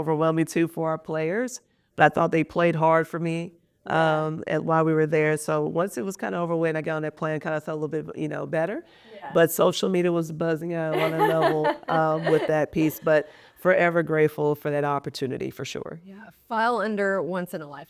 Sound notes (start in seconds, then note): 10.9 laughing